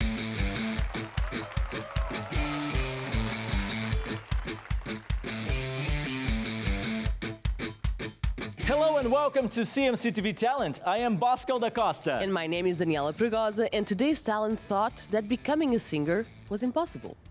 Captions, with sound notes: [ROCK MUSIC] [APPLAUSE AND CHEERS] Hello and welcome to CMC TV talent. I am Bosco da Costa. And my name is Daniela Pragosa. And today's Talent thought that becoming a singer was impossible.